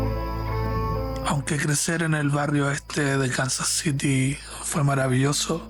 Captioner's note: heartfelt music; narrator speaking Spanish